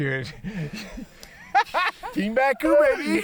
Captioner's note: laughing